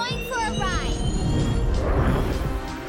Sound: whirring

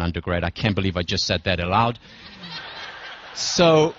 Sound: laugh

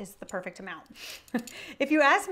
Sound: chuckling

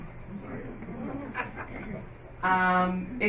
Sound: laughter

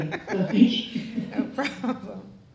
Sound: group laughing

